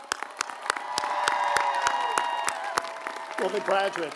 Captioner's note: applause